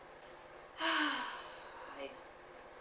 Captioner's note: sigh